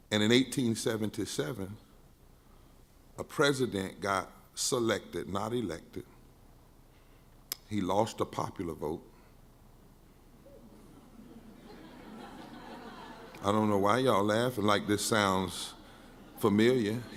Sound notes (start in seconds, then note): 10.6 crowd laughing